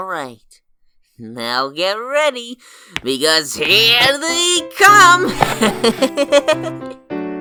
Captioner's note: chuckles